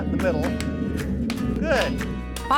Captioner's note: hitting, hammering